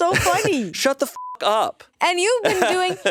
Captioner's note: beep